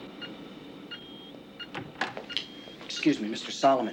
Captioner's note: door opening